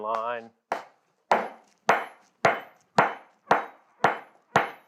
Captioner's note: metal clangs